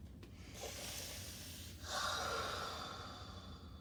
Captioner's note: breathing deeply